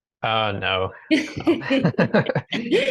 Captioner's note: chuckling